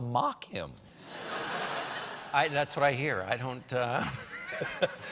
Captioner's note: laughter